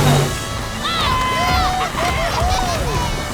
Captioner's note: cheering